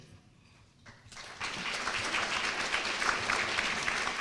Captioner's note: applause